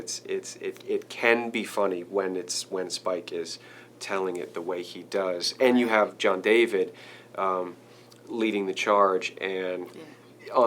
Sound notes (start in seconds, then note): none